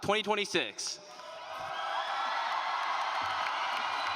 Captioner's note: applause